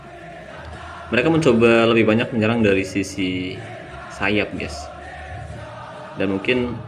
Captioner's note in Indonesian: bersorak